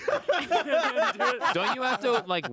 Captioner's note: group laughing